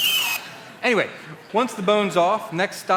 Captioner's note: drilling sound